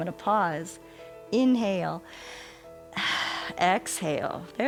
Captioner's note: inhales and exhales